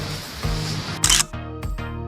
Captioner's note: photo click